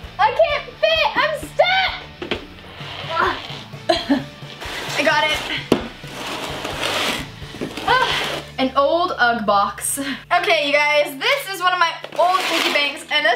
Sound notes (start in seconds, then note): 3.8 coughs